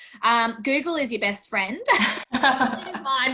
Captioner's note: laughs